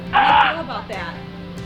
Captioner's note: screaming on phone